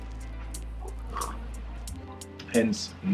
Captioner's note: man sipping